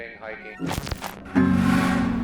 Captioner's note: computer static bleeping; tense music